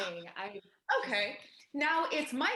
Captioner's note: scoffs